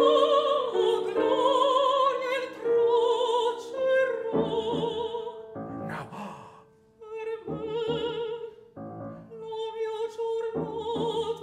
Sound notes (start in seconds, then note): 5.8 gasps; 7.0 piano and singing in foreign language